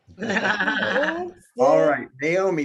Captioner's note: laughing